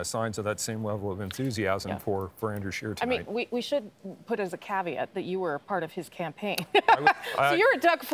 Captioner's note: laughter